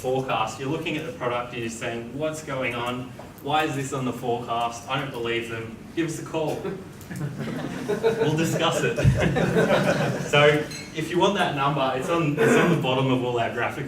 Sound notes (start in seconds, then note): 7.1 audience laughs